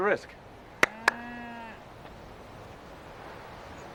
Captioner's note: cows mooing